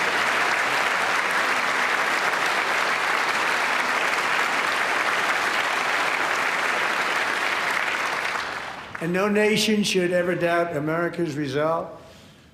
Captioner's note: applause